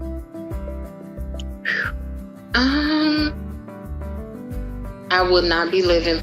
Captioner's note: exhales